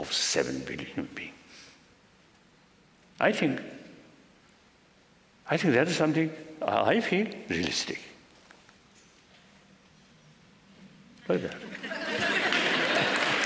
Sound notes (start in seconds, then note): 9.3 laughter; 12.1 applause